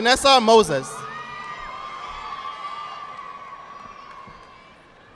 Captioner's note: audience applauding